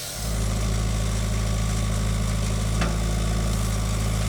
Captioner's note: skid-steer whirring